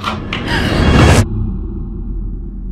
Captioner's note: both girls gasp